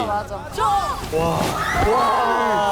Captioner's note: exerting